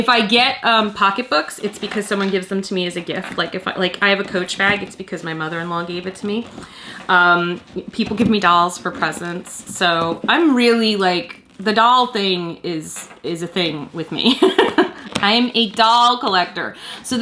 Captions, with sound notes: If I get pocketbook it's because someone gives them to me as a gift. I have a Coach bag because my Mother in Law gave it to me. People give me dolls for presents. The doll thing is a thing with me. (Laughs) I am a doll collector.